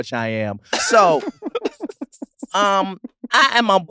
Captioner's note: laugh